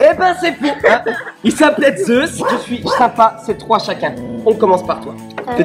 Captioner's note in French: Ouaf